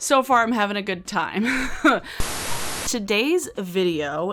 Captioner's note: laughs